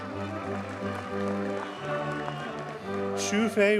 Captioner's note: audience cheers and applauds